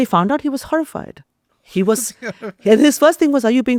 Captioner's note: laughs